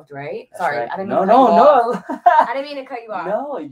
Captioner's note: laughs